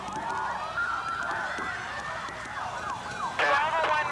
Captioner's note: police sirens